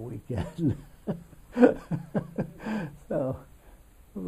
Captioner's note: laughs